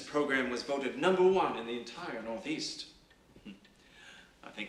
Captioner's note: chuckles softly